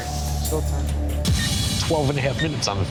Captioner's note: timer beeping